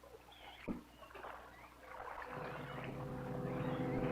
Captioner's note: water splashing; tense music continues